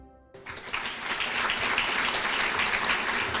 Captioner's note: applause